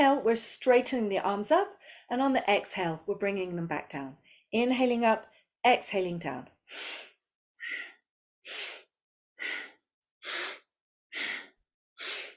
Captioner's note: breathes